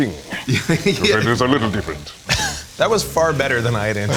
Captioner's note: regal voice